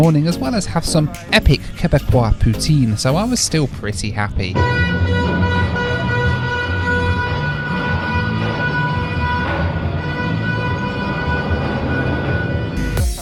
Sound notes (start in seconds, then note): 4.4 car horns blare